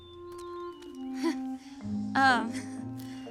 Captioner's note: chuckles